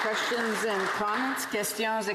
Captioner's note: some Applause